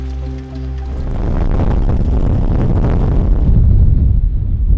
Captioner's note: wind howling